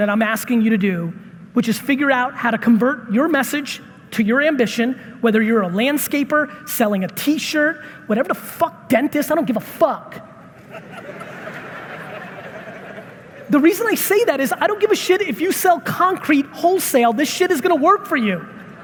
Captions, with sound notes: that I'm asking you to do, which is figure out how to convert your message to your ambition, whether you're a landscaper, selling a T-shirt, whatever the fuck, dentist, I don't give a fuck! (audience laughing) The reason I say that is, I don't give a shit if you sell concrete wholesale, this is gonna work for you.